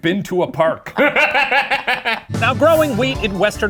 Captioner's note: cackles